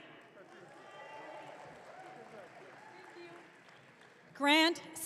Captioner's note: audience cheering